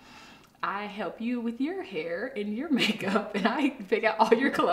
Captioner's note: laughs